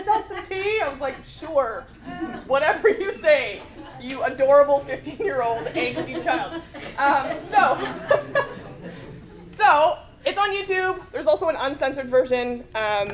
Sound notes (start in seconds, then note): 5.5 laugh